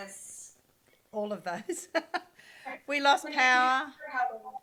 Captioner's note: laughs